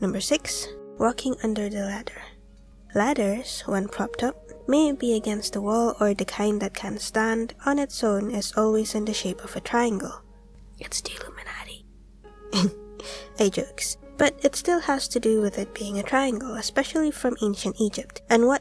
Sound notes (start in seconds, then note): 12.1 whispers; 12.5 chuckle